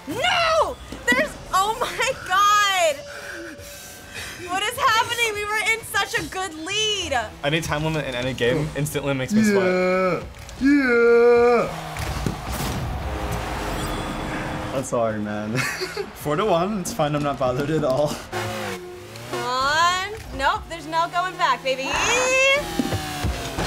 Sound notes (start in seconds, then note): 15.5 laughs